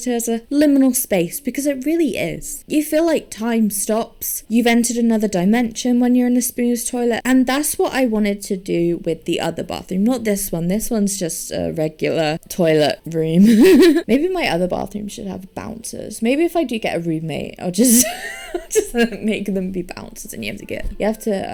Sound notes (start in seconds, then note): 13.4 laughs